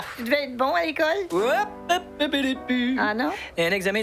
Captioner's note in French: Il chantonne